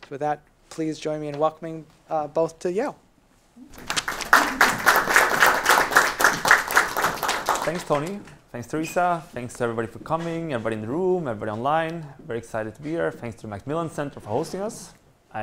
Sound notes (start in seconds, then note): 3.7 crowd claps